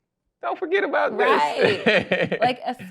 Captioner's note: laughs